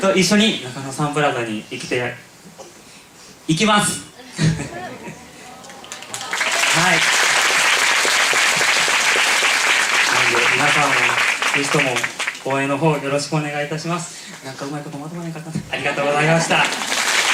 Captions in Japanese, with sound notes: ・・・と一緒に！中野サンプラザに行きた・・・ 行きます！！ 皆さんも是非とも応援の方 よろしくお願いいたします！ （小声で） なんかうまいことまとまらへんかったなぁ… ありがとうございました！